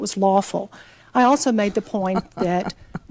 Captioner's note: laughs